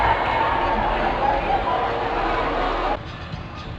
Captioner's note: cheering